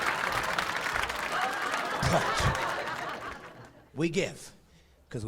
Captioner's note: clapping; laughing